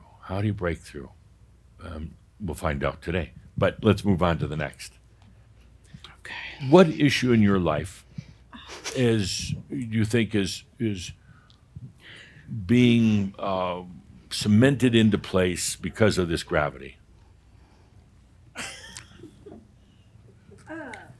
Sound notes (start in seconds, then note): 6.4 whispers